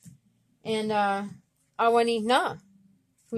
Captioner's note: speaking Abenaki